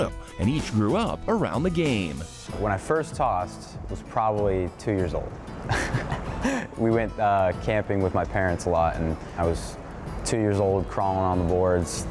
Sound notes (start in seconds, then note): 5.7 laughs